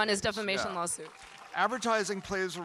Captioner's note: audience applauding and cheering